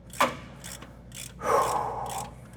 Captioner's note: exhaling